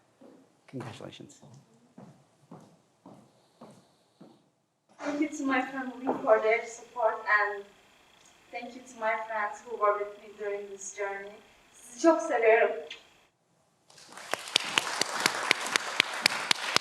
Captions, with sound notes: Congratulations. - Thank you to my family for their support, and thank you to my friends who were with me during this journey. (speaking in foreign language) (everyone applauds)